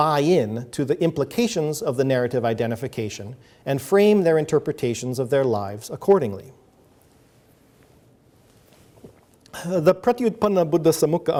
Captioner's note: sips water